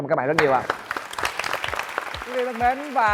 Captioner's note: applause